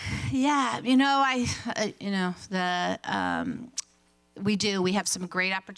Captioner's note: none